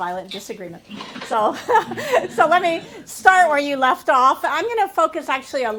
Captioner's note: laughter